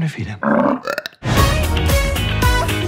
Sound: belch

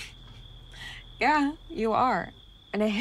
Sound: laughs

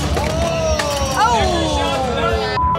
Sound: shouting

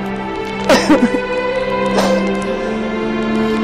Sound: cries

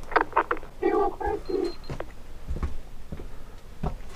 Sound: on the radio

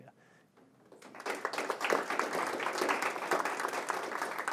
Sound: audience clapping

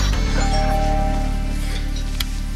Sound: doorbell rings

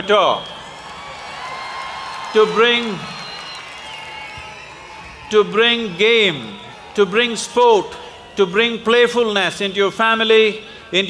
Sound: applause

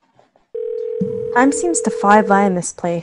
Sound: phone ringing

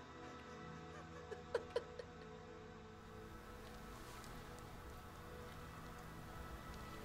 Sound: laughter

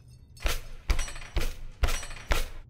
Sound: loud stomping and metal jingling

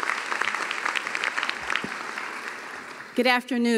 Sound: cheering and applause

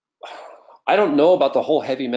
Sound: sighs

